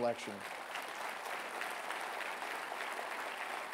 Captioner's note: applause